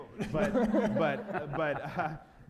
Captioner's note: laughter